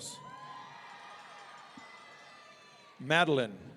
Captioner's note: audience cheering